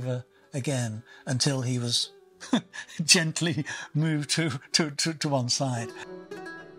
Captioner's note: laughs